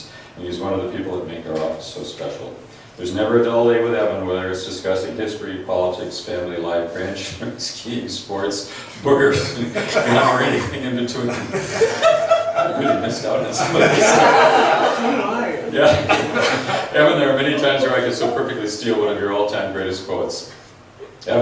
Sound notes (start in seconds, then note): 7.3 chuckles; 11.2 laughs